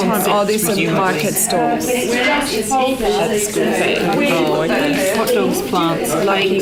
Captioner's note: participant chatter